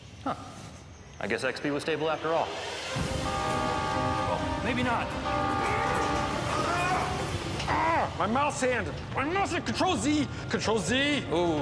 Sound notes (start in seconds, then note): 6.2 grunts